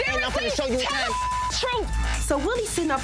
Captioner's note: beep